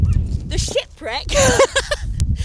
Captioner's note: laughs